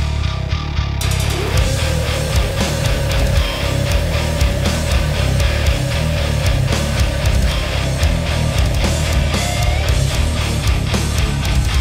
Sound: big fat ugly scream from the dephts

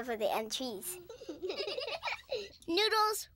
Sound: giggling

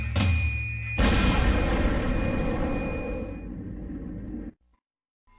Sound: explosion

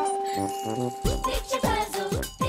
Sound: honk

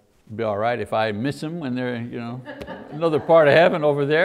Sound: audience laughs

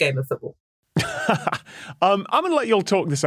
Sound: chuckles

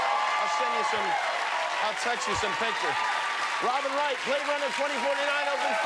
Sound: cheers and applause

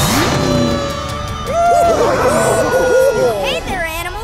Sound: cheering

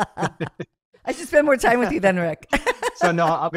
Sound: both laughing; laughs

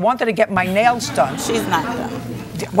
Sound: laughter

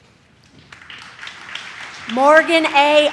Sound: audience claps

